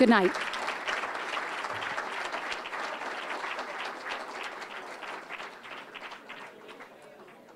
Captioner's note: applause